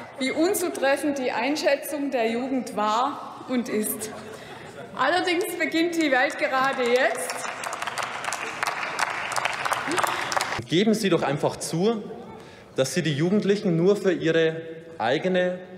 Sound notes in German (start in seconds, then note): 5.9 Beifall beim BÜNDNIS 90/DIE GRÜNEN sowie bei Abgeordneten der SPD